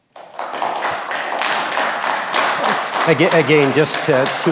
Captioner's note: audience claps